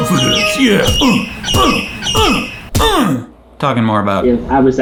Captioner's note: grunts